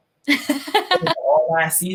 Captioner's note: laughing